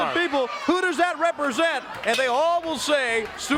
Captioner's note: crowd cheering